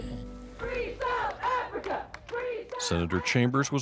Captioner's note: chanting